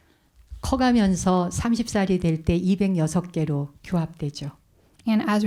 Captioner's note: speaking in Korean